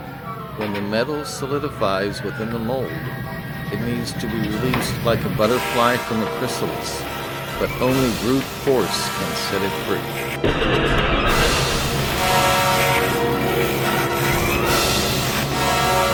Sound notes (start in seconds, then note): 10.4 hammer crashing; 12.4 dramatic orchestral music